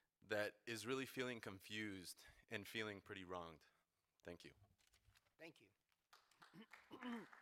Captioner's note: applause